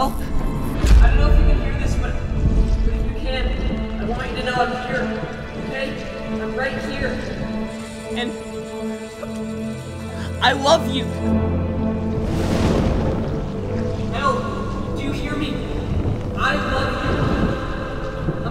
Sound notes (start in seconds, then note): 12.0 thunder crackles